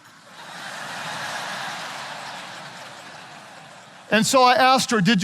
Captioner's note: audience laughing